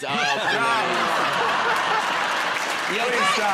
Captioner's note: laughter